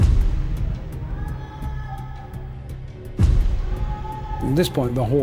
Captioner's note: distant shouting